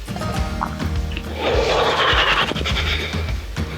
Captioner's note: shivers